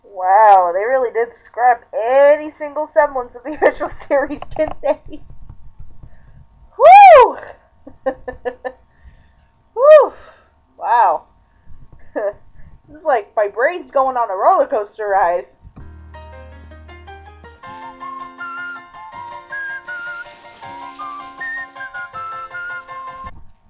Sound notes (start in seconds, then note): 4.7 laughing; 7.9 laughing; 10.0 exhaling; 11.8 chuckle; 17.6 whistling to the tune